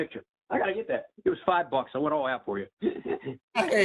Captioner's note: laughter